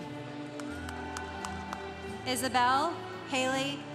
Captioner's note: congregation cheering